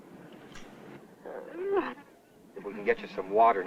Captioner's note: kiss